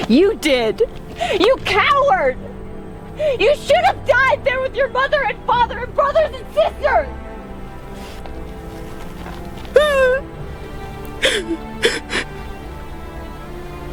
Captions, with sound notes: - You did, you coward! You should have died there with your mother and father, and brothers and sisters! (weeping)